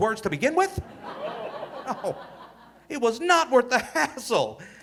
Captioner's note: audience laughing